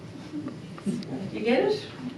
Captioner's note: audience murmuring